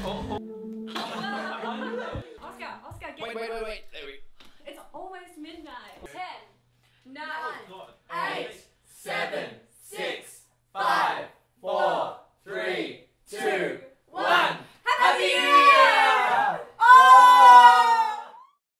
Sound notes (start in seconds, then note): 0.8 all laugh